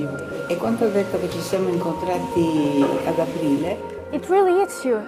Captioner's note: speaking in foreign language